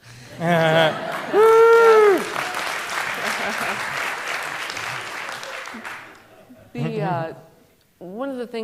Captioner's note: applause